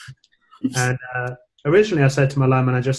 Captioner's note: laughing